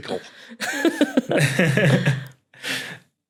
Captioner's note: chuckle